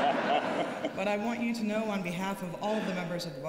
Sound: laughter

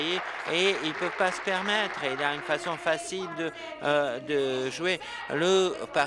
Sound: applause

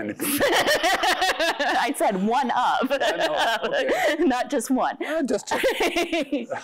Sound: laughs

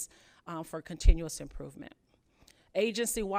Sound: none

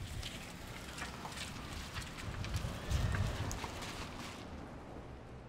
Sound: car drives off

